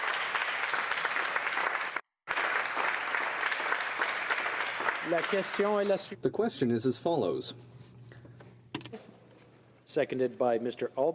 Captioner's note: applause